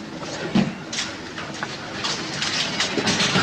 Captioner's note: none